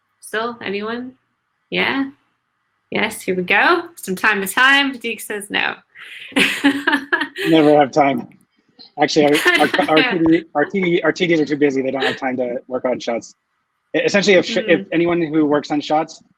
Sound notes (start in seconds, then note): 6.0 laughs